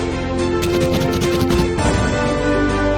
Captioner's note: uplifting music; pen scratching; uplifting music